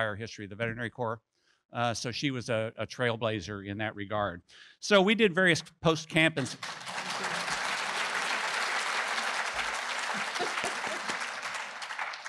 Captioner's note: applause